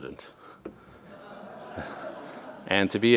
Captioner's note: audience laughing